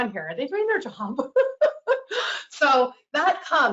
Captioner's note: laughs